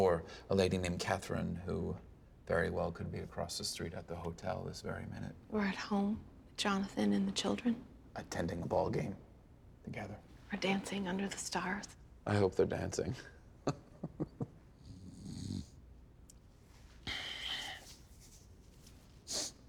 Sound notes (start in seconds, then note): 13.2 jason snores; 13.6 laughs; 17.7 sniffs